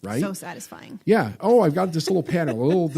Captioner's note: laughs